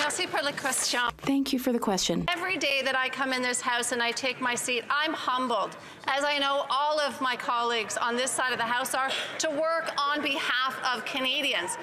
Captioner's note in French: voix de l'interprète